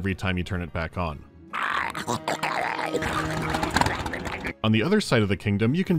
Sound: glugging on

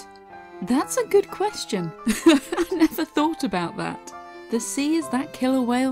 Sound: laughs

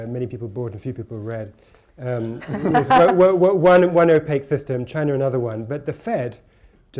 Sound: laughter

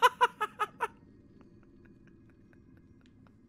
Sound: laughs

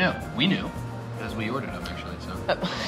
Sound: lively music; laughs

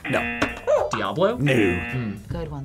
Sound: buzzer; buzzer barks; buzzer

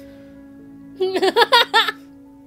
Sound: insane laugh

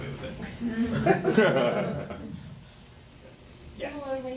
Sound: laughing

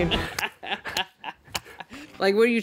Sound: laughs

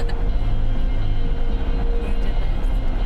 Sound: Chelsea laughing

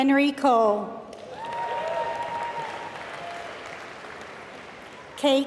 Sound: applause

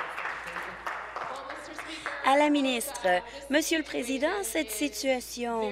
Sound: applause

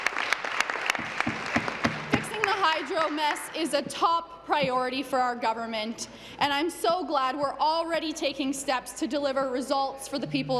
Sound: applause

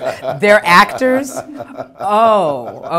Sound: laughing

